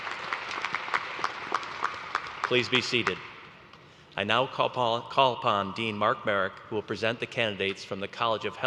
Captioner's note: applause